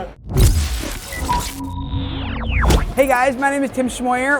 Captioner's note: digital static